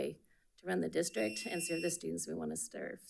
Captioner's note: buzzer buzzing